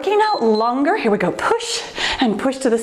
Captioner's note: timer beeps